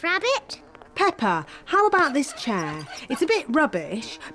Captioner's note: flies buzzing